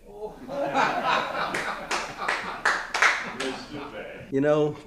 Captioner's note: group laughs